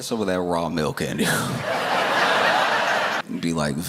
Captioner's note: laughter